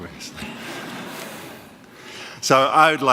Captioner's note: audience laughing